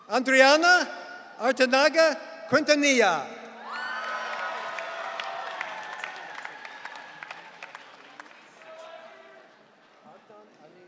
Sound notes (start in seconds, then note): 3.6 audience cheering